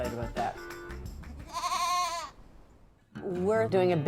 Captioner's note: goat Bleating